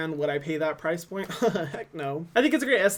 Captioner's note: laughs